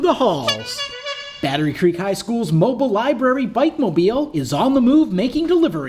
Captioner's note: SFX Bike Horn